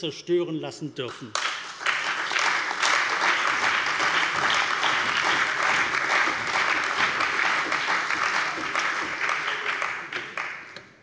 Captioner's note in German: Allgemeiner Beifall